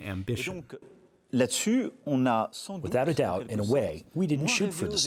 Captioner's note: through translator